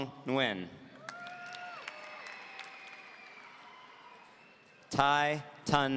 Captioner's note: audience cheering